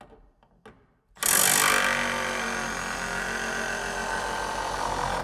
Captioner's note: screw drill whirring